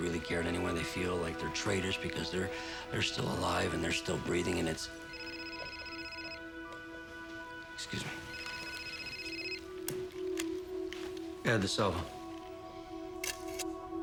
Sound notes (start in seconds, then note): 5.0 phone ringing